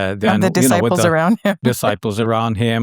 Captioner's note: chuckles